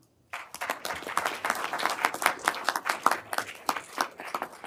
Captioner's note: everyone applauding